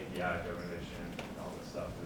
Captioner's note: speaks faintly